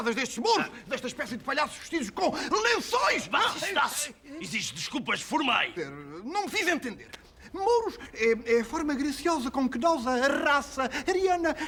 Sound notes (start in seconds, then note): 3.3 pseudo-Arabic gibberish